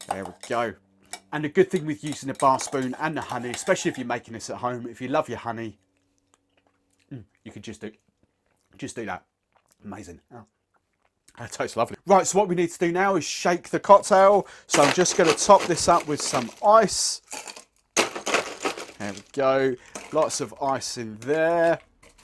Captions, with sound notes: There we go and a good thing with using a bar spoon and the honey, especially if you're making this at home, if you love your honey, you can just do that. Amazing, that tastes lovely. Right, so what we need to do now is shake the cocktail. So I'm just gonna top this up with some ice. (ice cracking) There we go, lots of ice in there.